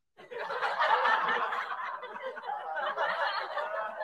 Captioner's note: people laughing